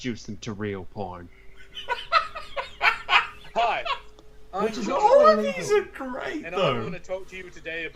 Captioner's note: laughter